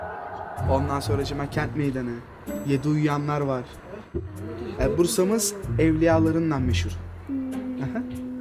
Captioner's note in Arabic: بالتركية